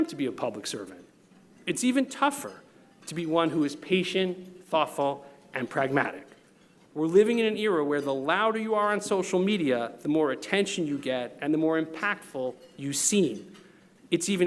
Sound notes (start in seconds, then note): none